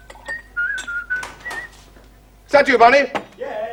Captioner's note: knocking